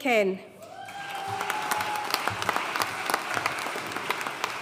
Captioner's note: audience cheering and applauding